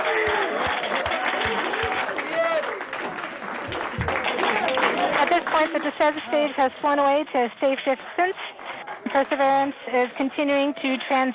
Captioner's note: applause